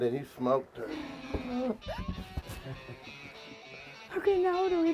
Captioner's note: chuckles